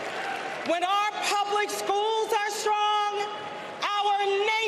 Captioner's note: applause